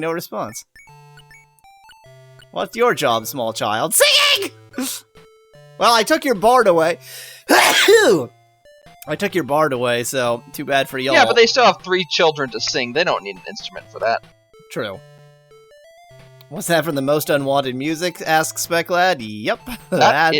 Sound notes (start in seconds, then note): 7.5 cough